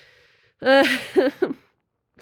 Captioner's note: laugh